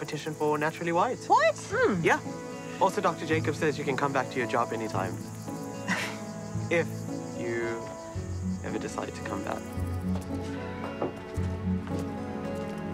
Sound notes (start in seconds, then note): 5.8 laughs